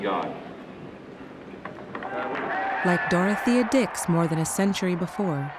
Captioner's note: applause and cheers